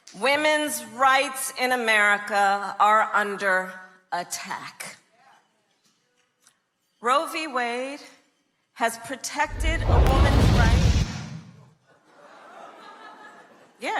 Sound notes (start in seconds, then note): 9.4 object crashing; 12.1 crowd laughing